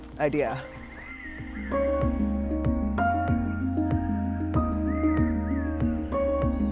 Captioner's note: birds chirping; gentle music